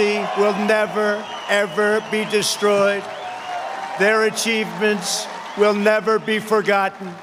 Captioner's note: applause